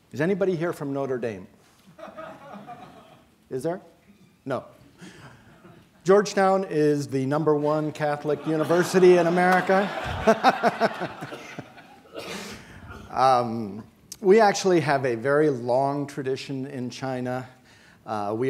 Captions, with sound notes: Is anybody here from Notre Dame? (audience member laughing) Is there, no? Georgetown is the number one Catholic university in America. (laughing) We actually have a very long tradition in China.